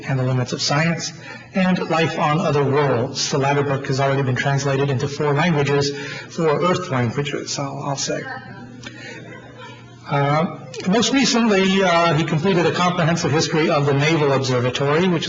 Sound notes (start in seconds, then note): 9.1 audience laughs